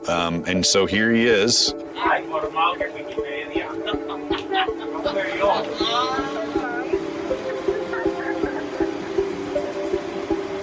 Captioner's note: indistinct chattering